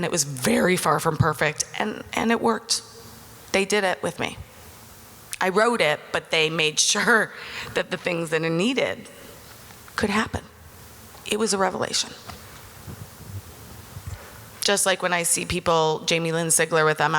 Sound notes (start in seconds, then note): none